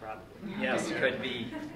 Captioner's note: laughter